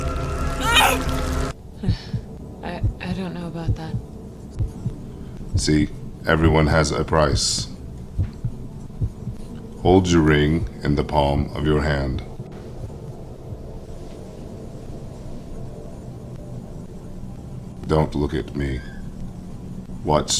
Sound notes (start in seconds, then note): 2.0 heart beating